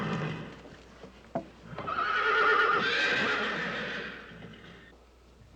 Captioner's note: whinnying Continues